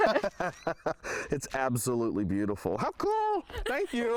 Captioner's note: laughter